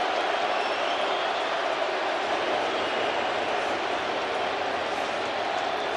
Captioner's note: applause